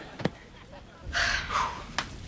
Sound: sighing

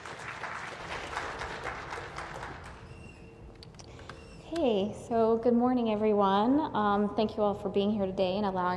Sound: applause

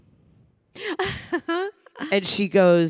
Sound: Samantha laughing

